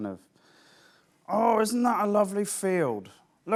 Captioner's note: deep voice